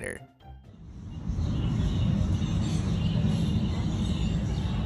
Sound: birds singing

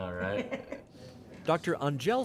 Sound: both laugh

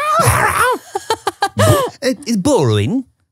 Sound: laughs

